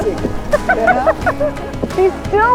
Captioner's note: laughing